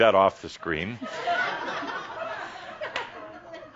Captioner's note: more chuckles